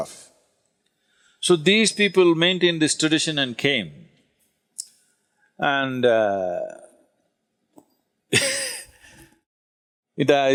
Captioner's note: laughs